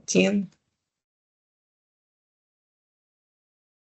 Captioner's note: silence